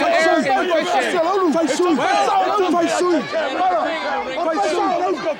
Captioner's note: team chattering